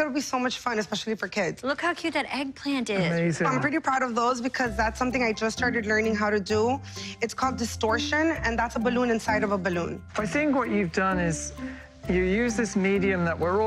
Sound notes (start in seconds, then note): none